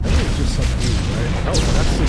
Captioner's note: explosion